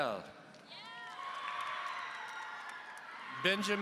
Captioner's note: audience cheering